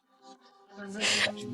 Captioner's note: laughing